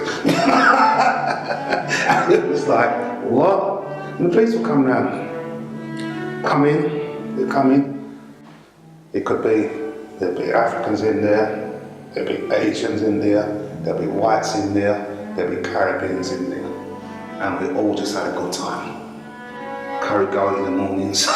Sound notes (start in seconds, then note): 4.1 laughs